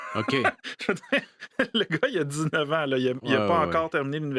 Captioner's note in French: rire